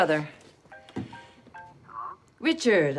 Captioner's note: ringtone